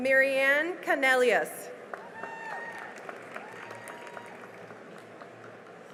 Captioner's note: cheering and applause